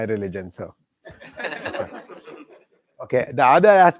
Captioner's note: laughter